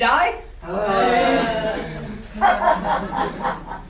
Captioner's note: sailors groaning